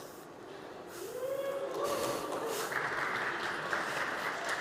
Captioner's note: applause